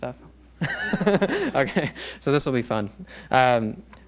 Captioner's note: laughs